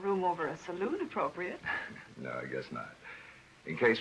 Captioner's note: laughs